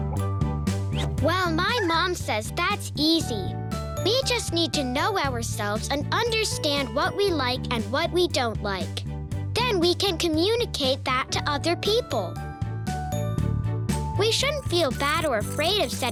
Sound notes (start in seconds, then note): none